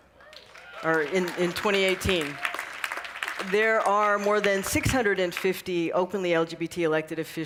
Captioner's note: cheering and applause